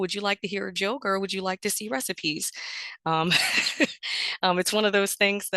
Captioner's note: chuckles